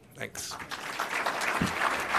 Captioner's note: applause